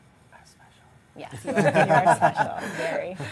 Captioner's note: laughing